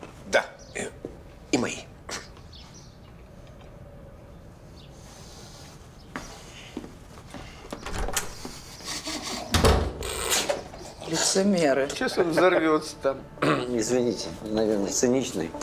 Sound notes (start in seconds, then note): 8.6 chuckles